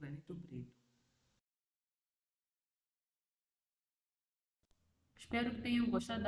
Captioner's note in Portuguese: Sem som